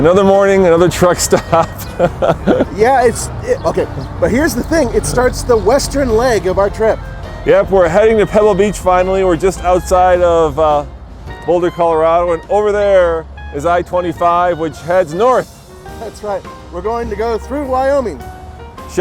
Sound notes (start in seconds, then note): 1.0 laughs